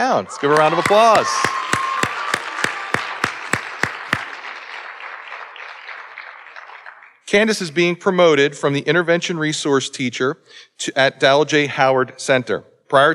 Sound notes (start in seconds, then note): 0.1 audience cheering and applauding